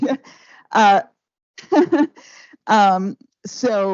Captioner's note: laughing